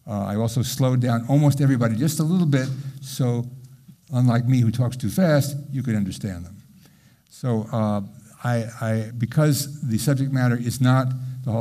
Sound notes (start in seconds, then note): none